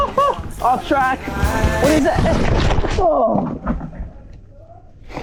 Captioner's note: grunts